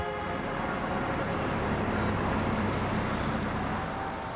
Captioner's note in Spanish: Claxon de autos